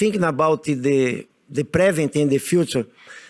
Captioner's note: none